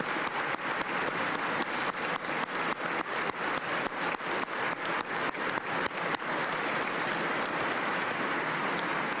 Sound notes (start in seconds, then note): 2.8 applause